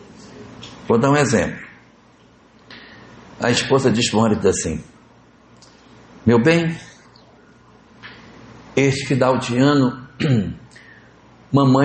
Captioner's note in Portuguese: limpando a garganta